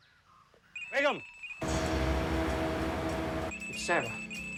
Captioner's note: speaking foreign language; phone ringing; dramatic music